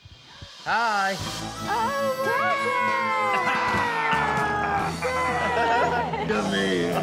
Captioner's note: cheering